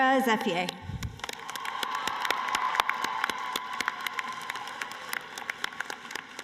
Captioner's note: cheering and applause